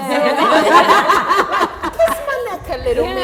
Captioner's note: laughter